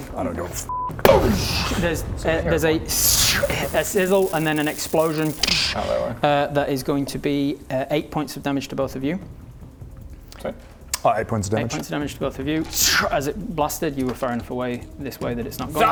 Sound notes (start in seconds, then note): 0.9 boosh!; 5.4 d-doosh!